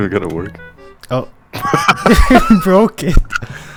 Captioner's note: laughter